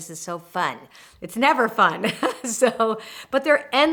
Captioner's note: laughs